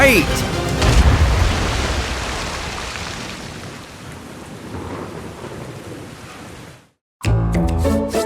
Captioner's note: storm sounds, huge splash; scene change music